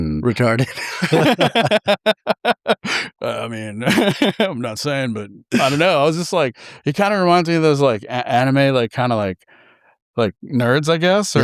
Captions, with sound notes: Recarded. [LAUGHTER] I mean, I'm not saying, but I don't know. He kind of reminds me of those anime nerds, I guess,